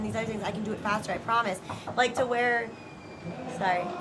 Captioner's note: knocking